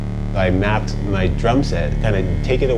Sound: voiceover

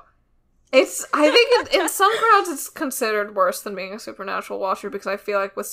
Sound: laughs

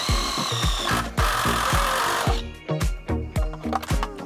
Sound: drill whirring; upbeat music

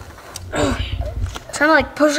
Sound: groaning

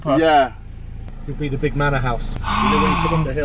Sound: gasping

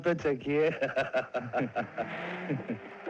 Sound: laughing

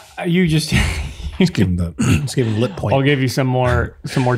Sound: innocent laughing

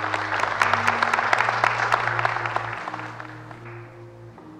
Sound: crowd applauds

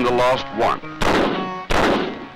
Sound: gunshots

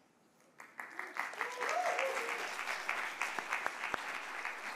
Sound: audience applauding

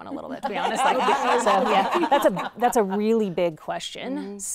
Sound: all laughing

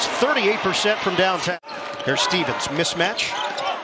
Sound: cheers and applause

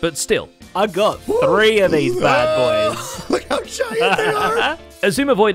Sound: laughs

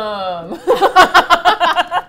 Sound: dryly; both laugh

